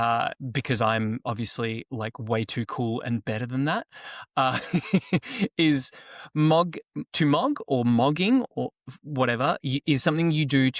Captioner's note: laughs